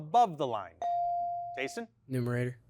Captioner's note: bell chiming